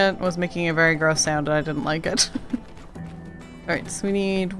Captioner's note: laughs